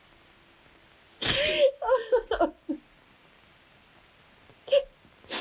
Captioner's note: Marquesa sobbing